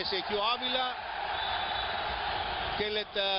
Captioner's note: referee whistles